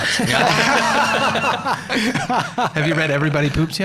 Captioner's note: laughing together